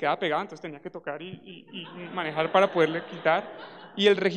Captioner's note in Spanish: Risas